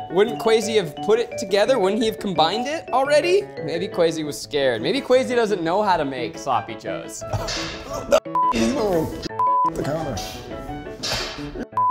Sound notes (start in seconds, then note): 9.3 beep; 9.3 beeps